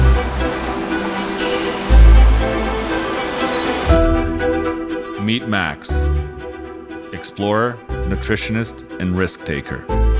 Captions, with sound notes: (camera clicking) Meet Max. Explorer, nutritionist, and risk-taker.